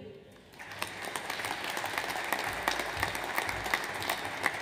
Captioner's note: audience applauds